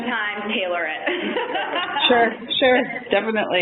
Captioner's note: laughter